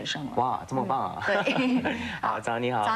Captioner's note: laughter